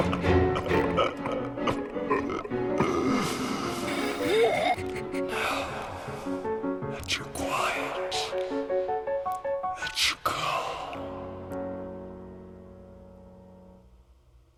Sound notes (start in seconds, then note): 0.0 the laughter of madness; 2.2 suspensful music; 4.3 gasping breath